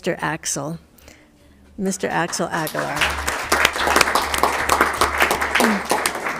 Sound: all applauding

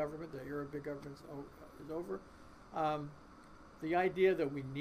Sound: voice muffled

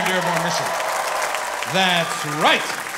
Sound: audience applauding

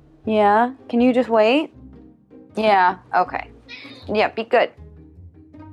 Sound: cat meowing

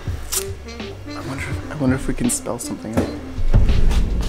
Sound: whispering

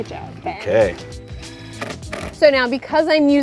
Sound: whirring

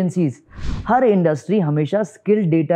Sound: speaking hindi

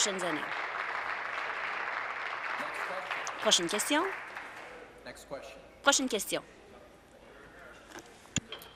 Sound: applause

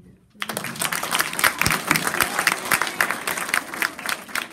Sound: applause

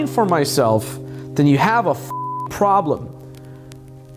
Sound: beep

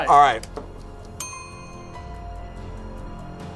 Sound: bell rings; tense music

